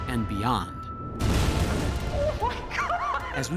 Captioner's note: explosions